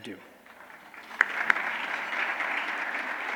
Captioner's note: applause